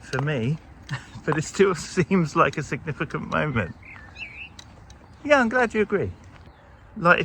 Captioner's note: bird chirping